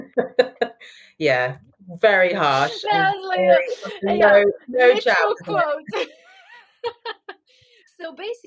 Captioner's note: laughing